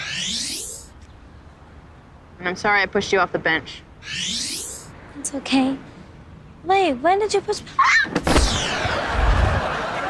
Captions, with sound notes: And I'm sorry I pushed you off the bench. It's okay. Wait, when did you push-- [yelping]